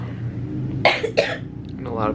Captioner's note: coughing